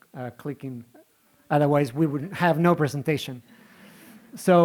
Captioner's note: giggling